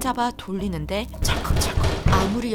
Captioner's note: rattle rattle